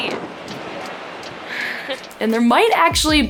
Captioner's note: chuckles